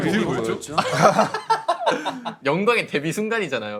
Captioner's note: laughing